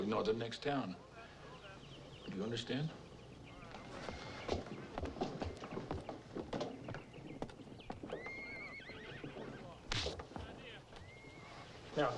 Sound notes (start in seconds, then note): 3.7 Henderson stomping; 9.9 hand smacks